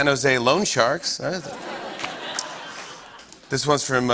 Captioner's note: laughter